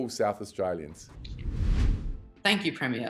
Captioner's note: air whooshing